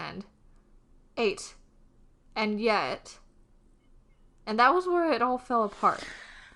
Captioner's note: sighs